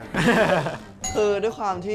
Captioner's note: laughter